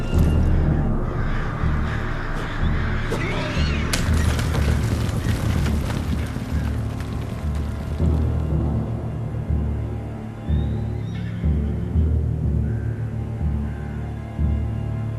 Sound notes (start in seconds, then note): 1.4 crows cawing; 3.9 whip crack